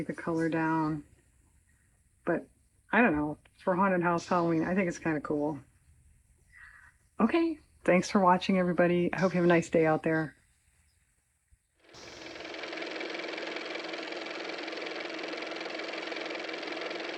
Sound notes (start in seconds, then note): 11.8 car motor